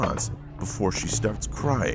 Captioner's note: door clicks